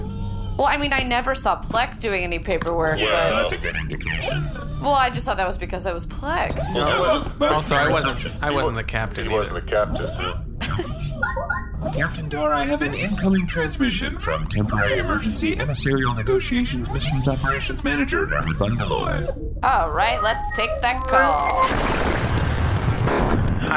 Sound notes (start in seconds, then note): 11.9 laughter; 12.0 incoming-transmission noise